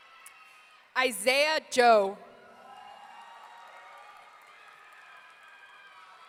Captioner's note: audience cheering